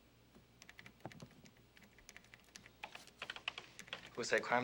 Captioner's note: keys clicking